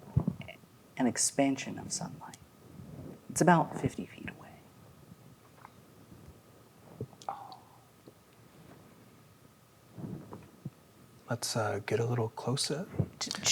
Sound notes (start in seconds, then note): 6.5 quietly